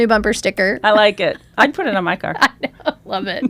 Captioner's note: laughs